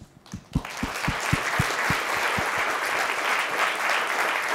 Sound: audience clapping

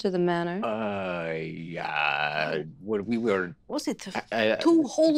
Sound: Squing stammers

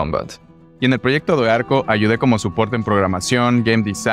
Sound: spanish

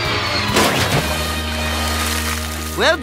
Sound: splashing

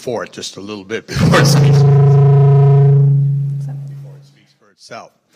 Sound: loud microphone reverberation

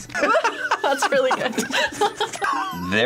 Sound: both laugh

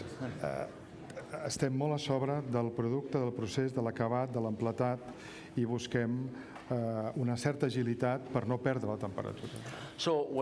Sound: speaking catalan

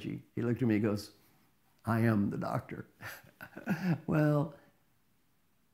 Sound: laugh

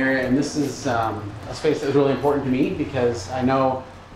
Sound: none

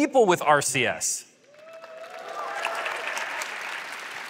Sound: applause

